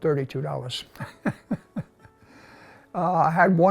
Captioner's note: laughs